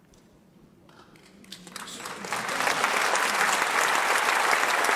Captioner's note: audience applauding